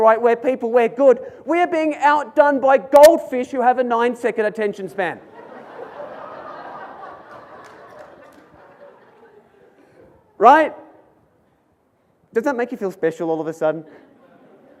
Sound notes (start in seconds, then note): 5.3 audience laughs and claps